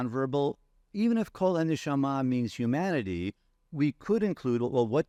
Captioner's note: speaking in foreign language